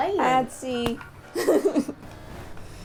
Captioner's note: laughter